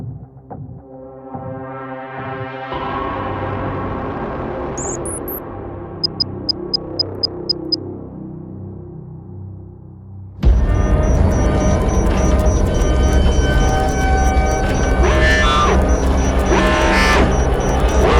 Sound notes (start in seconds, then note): 4.8 device beeping; 6.5 letters clicking; 10.4 systems beeping; 15.2 alarm blaring